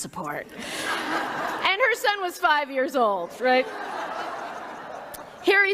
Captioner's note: laughter